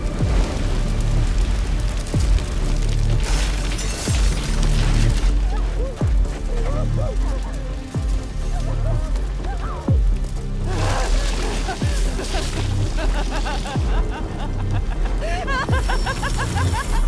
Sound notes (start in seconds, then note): 0.1 fire roaring; 3.3 windows shattering; 8.0 muffled shout; 10.5 laughs; 10.7 growls